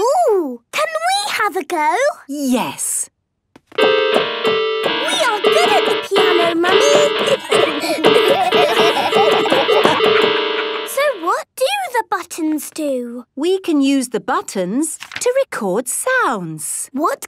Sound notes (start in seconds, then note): 3.8 dissonant music; 7.3 laughter